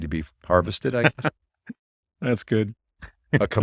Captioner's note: laughs